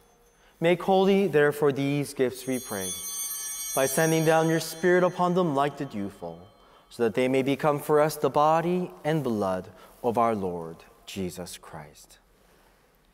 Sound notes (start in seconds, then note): 3.0 bell ringing